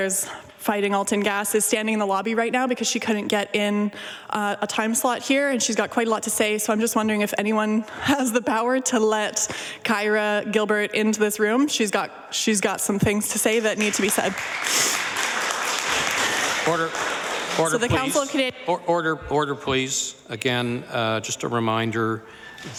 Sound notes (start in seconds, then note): 18.0 applause